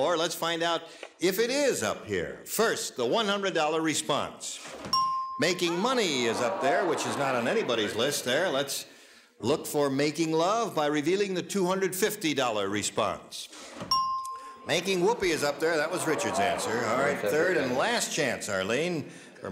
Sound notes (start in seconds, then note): 4.9 ding; 13.9 ding